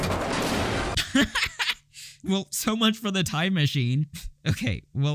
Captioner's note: bursts out laughing